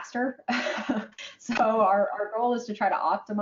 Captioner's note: laughing